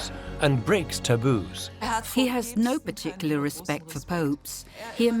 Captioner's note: female voice in German